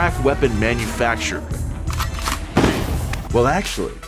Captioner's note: gun cocks; gun blasts